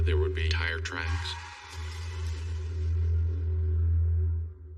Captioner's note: tires screechining